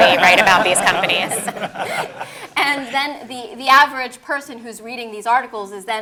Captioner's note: laugh